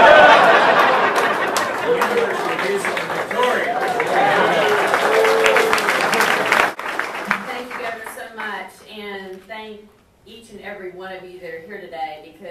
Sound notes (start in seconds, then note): 0.0 audience laughter drowns out speaker; 4.4 audience applauds